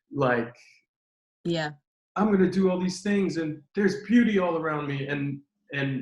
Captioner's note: none